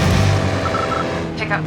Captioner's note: 90s mobile phone sounds